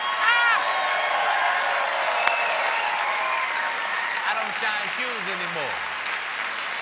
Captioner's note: cheers and applause